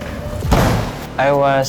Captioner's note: bang!